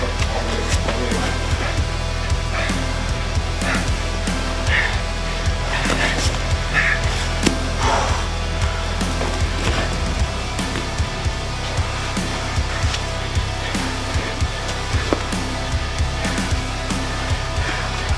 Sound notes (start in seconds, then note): 1.6 man breathes heavily